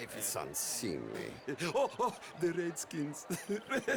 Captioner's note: laughs